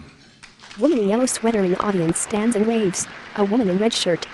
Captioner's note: applause